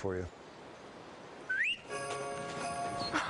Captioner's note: husband whistles